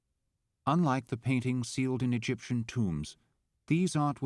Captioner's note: voiceover